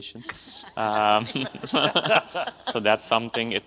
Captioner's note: audience laughs